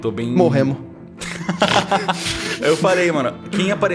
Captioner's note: laugh